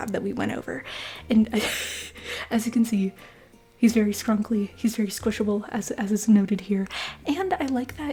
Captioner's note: laughter